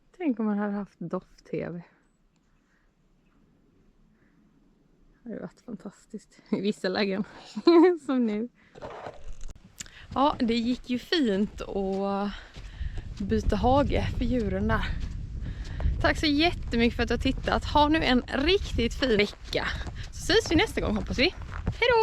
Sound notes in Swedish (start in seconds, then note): 7.3 skratt